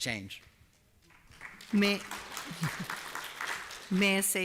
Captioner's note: applause